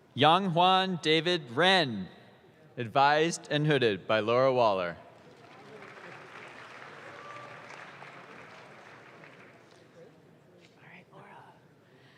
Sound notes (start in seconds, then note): 5.2 audience claps